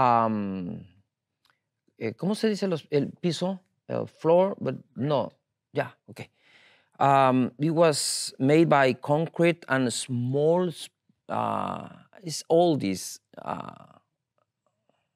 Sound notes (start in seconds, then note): 2.3 speaking in Spanish